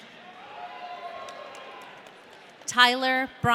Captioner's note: audience cheering